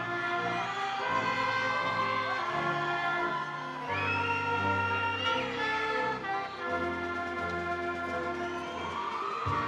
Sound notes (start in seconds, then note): 3.3 attendees cheering; 3.3 triumphant music